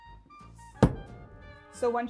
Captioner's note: axe thuds